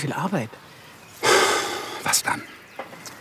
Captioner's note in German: Er seufzt